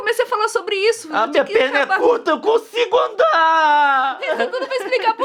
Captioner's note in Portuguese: imitando a voz da Nilce